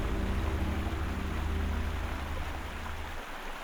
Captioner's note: water flowing